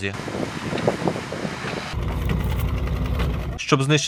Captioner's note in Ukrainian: Шум вітру. Звук двигуна